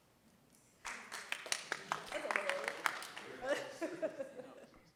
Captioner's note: audience clapping